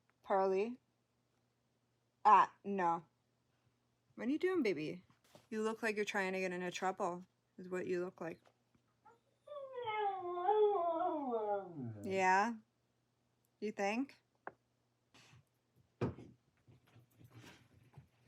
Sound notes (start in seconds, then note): 9.1 Pearl howls